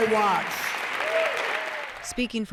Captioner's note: cheering and applause